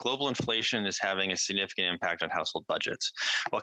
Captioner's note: some Applause